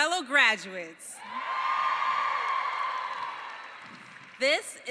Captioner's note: cheering